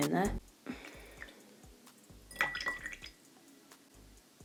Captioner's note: milk dribbling